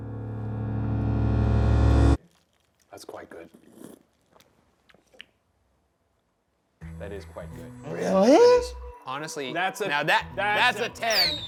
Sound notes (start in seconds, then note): 0.0 dramatic stinger; 3.3 smacks lips